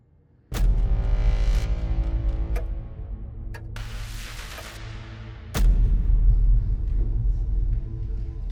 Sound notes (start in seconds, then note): 1.2 clock ticking; 4.5 dramatic music